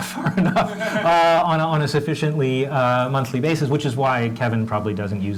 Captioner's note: laugh